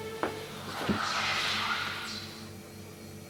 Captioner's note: distant whispering